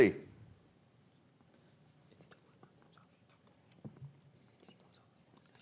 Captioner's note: whispering